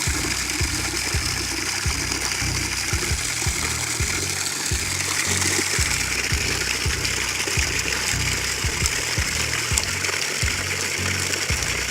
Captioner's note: water sounds